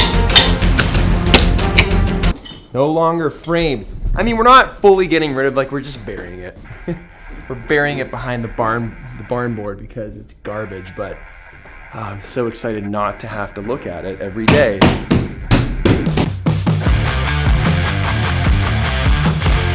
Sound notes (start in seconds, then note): 0.1 hammer banging; 5.9 laughs; 14.3 hammer banging; 16.0 aggressive rock music